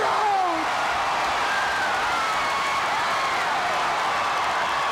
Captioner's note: audience cheering